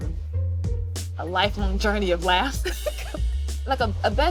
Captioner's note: laughs